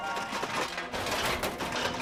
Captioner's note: metal clanging